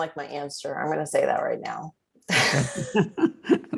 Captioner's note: laughter